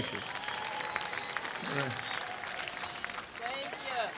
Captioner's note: audience applauding